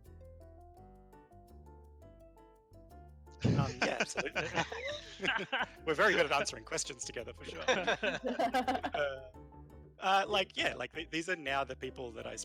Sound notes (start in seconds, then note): 3.4 laughter; 3.4 more laughter; 9.2 laughing